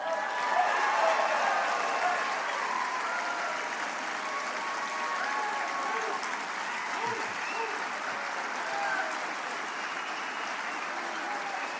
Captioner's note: applause